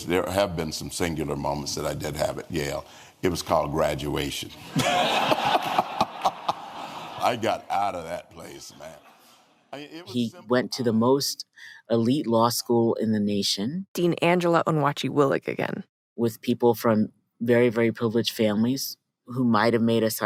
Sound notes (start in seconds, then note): 4.7 laughs